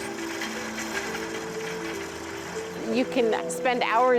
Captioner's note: whirligigs rattling